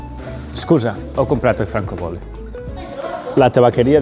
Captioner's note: in Italian